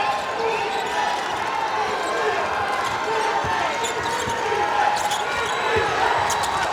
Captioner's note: crowd chanting